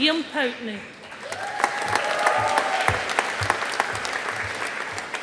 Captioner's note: audience applauding